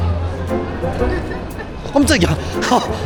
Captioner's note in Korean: 코웃음 코웃음